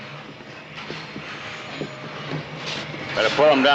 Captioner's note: whirring of press